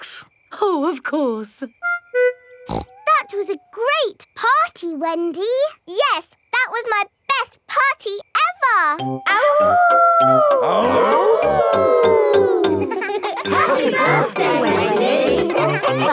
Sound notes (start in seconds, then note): 2.6 snorts; 10.4 howling; 11.5 all howling